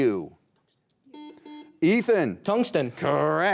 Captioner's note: beep